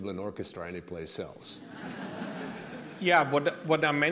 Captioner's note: laughter